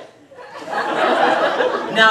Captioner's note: audience laughs